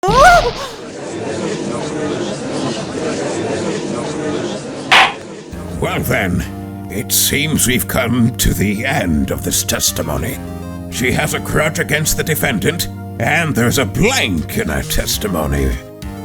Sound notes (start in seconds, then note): 1.4 gallery chattering; 4.9 gavel slams!